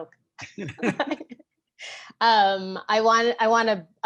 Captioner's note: both laugh